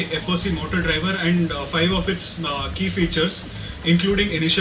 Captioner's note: ? motor ?